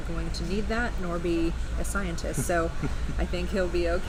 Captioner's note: laughing